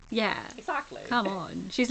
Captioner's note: laughs; laughing